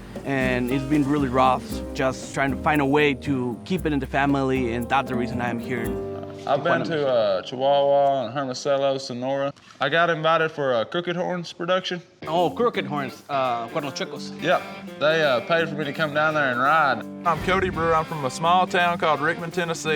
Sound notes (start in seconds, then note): 13.5 speaking spanish